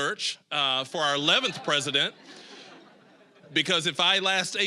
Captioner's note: audience laughing